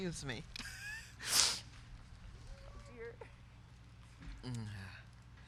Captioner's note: laughs